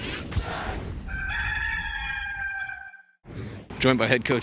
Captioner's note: rooster crows